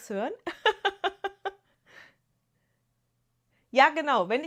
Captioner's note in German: gelächter